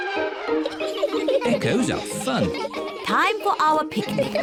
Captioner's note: all giggling